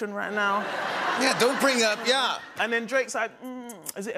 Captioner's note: laughter